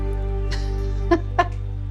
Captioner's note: laughs